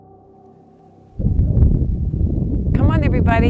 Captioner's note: wind disturbance